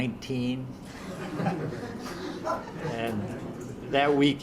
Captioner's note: audience laughs